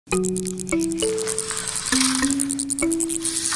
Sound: bats chirping

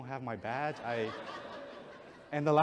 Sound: audience chuckles

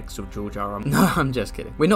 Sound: laughs

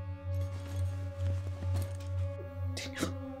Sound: opening bag

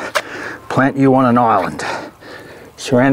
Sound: squelching

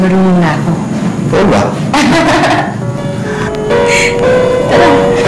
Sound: chuckles

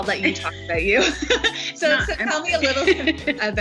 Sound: laughing

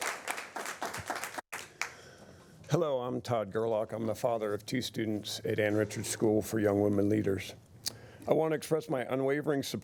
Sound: applause

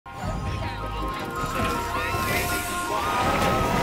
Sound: people chattering; inspiring music

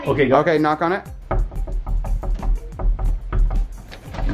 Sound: knocking

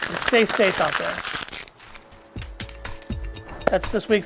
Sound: paper crinkling

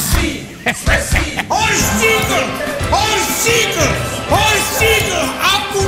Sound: chanting

